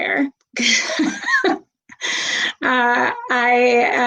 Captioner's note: laughs